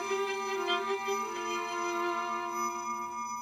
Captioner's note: ringing